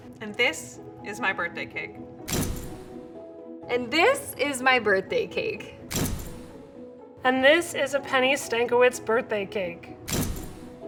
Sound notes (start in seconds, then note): 2.3 camera shots; 5.5 camera shots; 9.8 camera shots